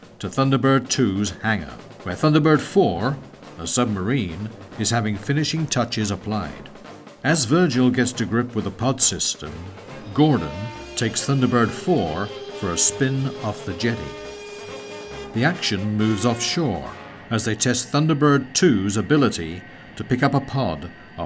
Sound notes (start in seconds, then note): 11.5 dynamic music; 16.6 jet whirring